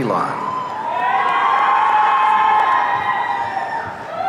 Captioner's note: audience cheering